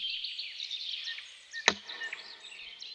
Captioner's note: clapper